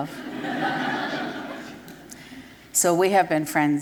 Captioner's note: laughter